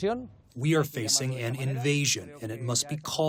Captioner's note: through translator